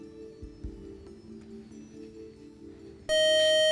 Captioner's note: time-out buzzer